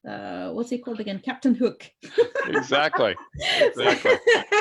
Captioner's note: laughs